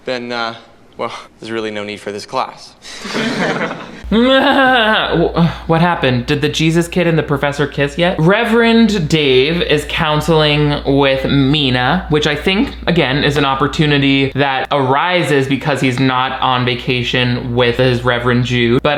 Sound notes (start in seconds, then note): 2.9 students laughing; 2.9 chuckles